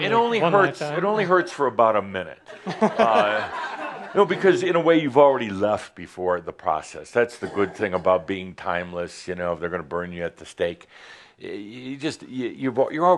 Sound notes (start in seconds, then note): 2.4 laughter